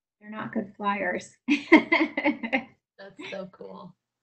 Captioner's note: laughs